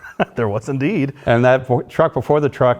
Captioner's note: laughter